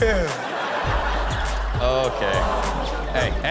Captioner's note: crowd laughs